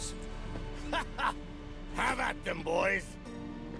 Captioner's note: laughs